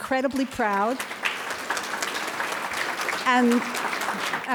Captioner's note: audience claps